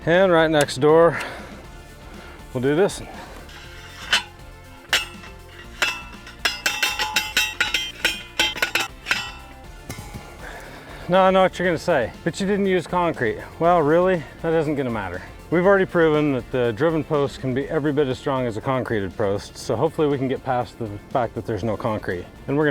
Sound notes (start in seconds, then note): 1.3 upbeat music; 3.8 post pounder clanging; 9.5 upbeat music